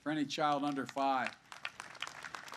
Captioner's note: applause